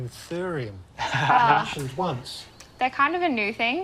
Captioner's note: laughs